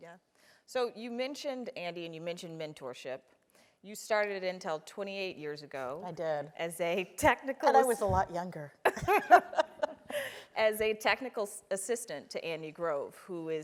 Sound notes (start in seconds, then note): 8.9 laugh